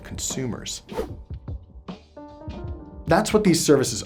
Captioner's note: whooshing